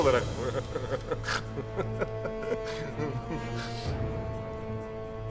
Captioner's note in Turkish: Vasilius gülme sesi